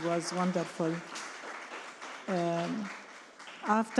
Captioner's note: attendees clapping